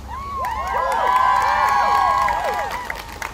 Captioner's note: crowd cheering